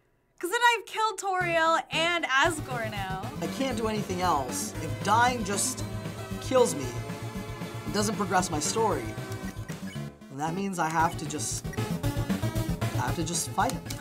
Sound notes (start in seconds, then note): none